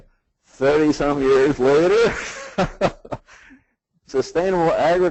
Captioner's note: laughs